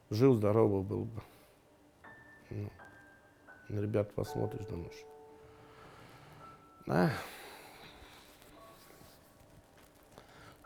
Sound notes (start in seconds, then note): 7.0 sigh